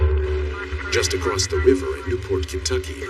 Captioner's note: radioio chatter